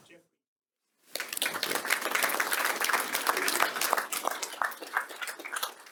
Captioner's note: audience clapping